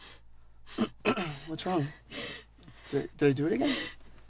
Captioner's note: clears throat